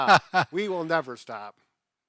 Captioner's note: laughing